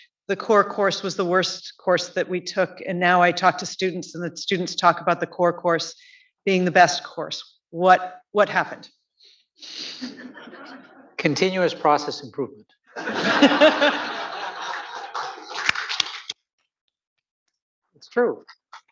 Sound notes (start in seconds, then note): 10.0 audience laughing; 12.9 audience laughing; 14.6 clapping